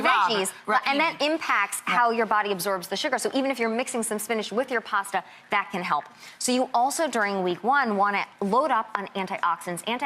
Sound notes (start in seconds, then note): none